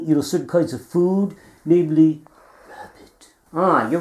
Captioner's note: whispering